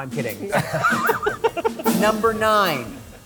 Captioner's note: laughter